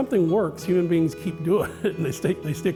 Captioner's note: laughs